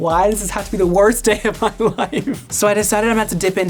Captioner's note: laughing